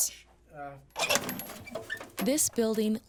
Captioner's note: film canister opening